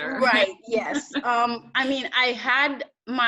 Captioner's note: laughs